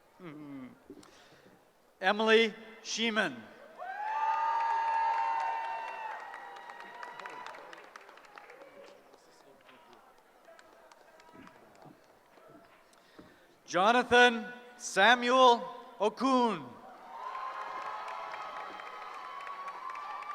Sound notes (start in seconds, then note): 3.7 cheering; 16.8 cheering